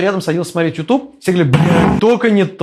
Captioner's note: the sounds of anger